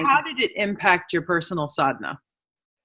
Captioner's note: speaking in foreign language